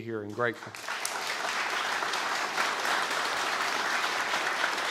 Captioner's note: audience applauds